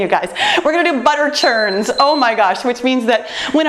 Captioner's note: timer beeps